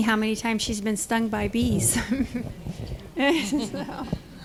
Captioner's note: chuckles